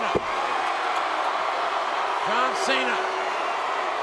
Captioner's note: spectators cheering